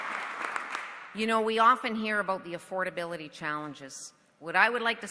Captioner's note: applause